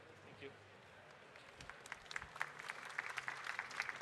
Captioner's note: applause